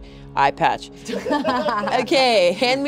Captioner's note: everyone laughing